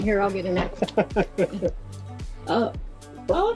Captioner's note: laughs